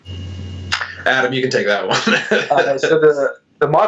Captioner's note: laughs